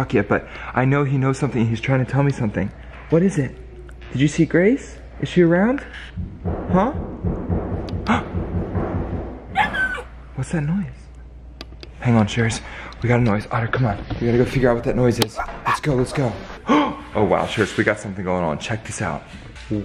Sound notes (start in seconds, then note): 7.7 thumping; 9.5 otter whines